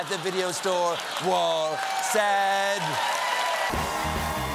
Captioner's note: cheers and applause